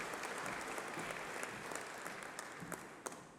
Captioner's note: applause